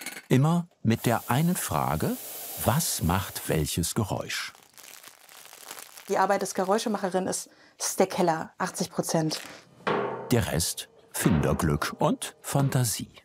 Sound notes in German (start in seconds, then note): 4.4 Rascheln